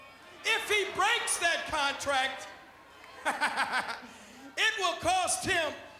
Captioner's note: laughs